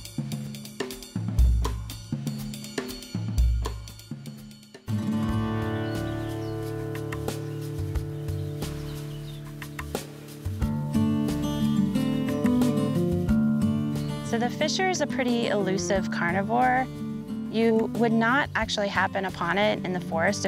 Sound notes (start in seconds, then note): 0.1 percussive music; 9.0 birdsongs and calls; 12.5 acoustic guitar music